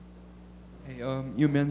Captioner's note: voiceover